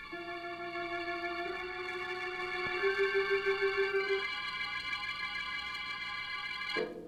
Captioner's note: phone ringing